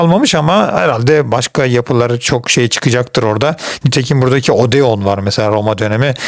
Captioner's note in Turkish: homurdanır